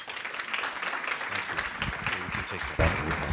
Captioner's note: applause